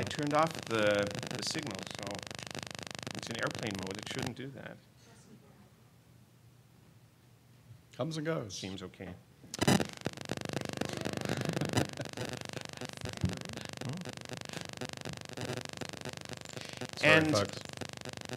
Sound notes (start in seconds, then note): 10.0 mic static noise; 11.7 everyone laughing